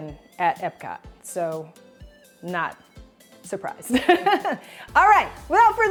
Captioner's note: chuckles